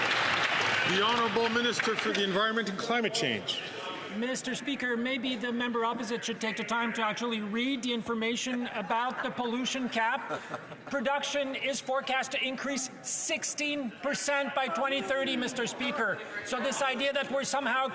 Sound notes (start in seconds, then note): 3.2 some Applause